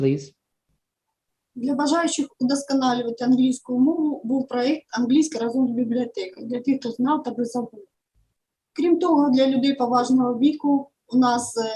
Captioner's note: foreign Language